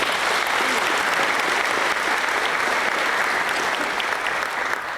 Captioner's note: applause